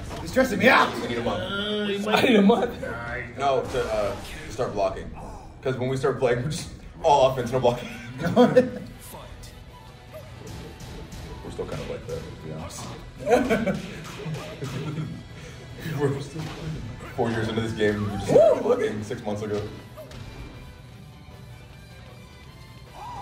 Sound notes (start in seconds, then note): 16.2 laugh